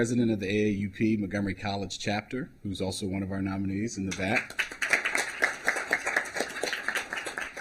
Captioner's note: applause